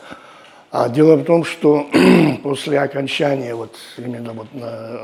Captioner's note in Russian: кашель; откашливается